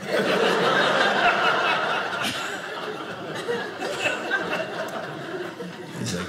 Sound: audience laughing

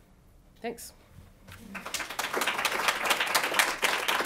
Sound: applause

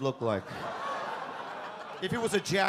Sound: audience laugh

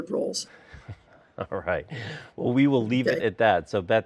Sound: chuckles

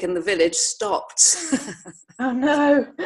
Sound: laughter

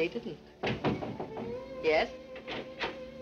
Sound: door knocking

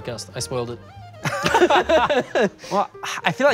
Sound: both laughs

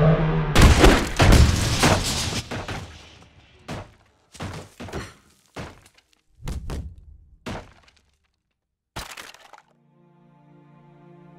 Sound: roar; banging

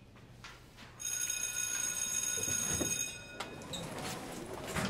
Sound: bell rings

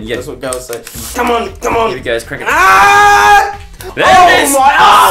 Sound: screams; shouting

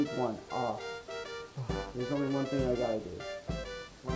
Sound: I sigh

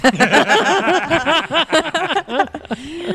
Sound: everyone laughs

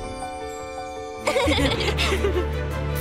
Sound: laughing

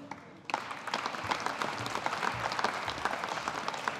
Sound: audience applauding

